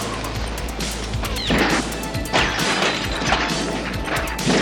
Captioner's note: gunfire